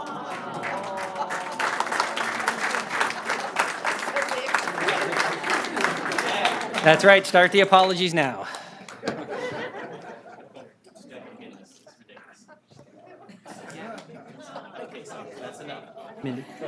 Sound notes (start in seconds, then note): 6.3 applause; 15.7 laughter